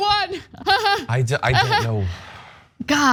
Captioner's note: laugh